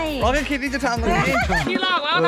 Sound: laughs

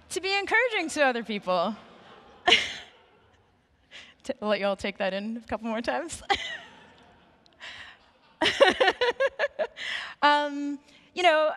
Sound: laughing

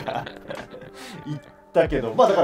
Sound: laughing

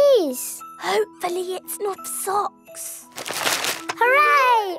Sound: whispering

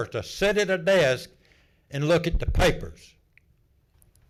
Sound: none

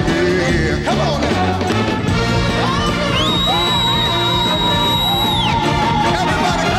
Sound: hand whistle

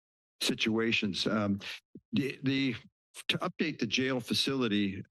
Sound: stutters

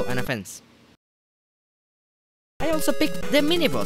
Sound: awkward pause

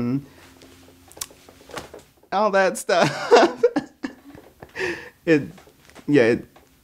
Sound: laughing

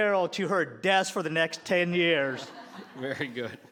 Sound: laughter

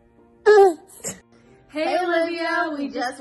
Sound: baby coos

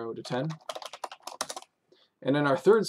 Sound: typing

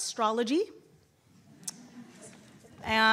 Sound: audience chuckling

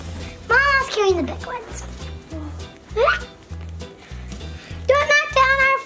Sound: yelps

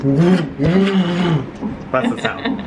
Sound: laughs

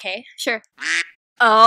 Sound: quack

